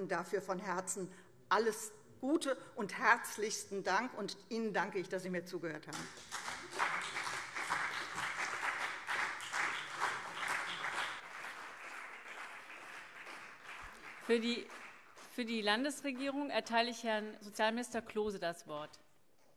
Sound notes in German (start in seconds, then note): 5.9 Beifall CDU und BÜNDNIS 90/DIE GRÜNEN